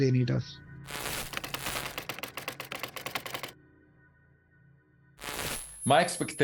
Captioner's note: static crackling; keys clicking; static crackling